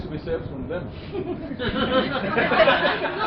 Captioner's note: laughter